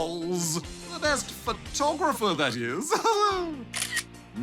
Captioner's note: laughs